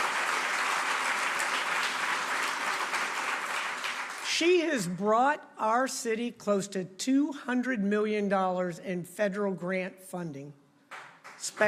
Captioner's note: applause